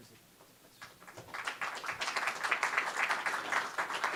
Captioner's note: clapping